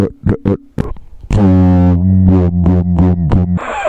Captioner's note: bus noises